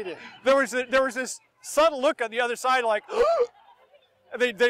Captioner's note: surprise breath intake